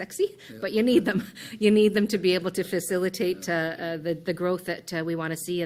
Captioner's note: laughs